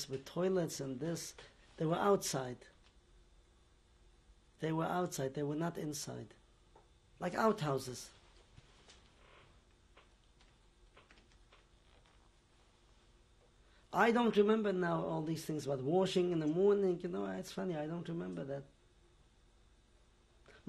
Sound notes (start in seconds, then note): 7.7 pauses for 6 seconds